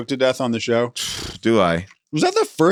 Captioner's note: trills